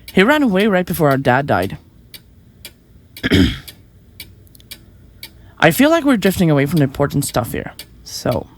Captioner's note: clears throat